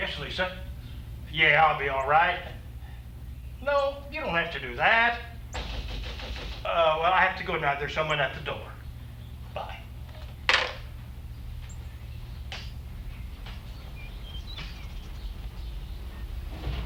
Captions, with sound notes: Yes, Lisa. Yeah, I'll be alright. No, you don't have to do that. [knocking] Oh, well I have to go now. There's someone at the door. Bye.